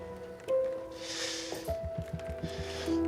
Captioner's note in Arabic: كنان يتنهد